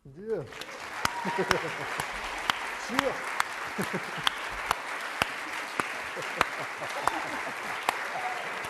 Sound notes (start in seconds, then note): 0.2 applause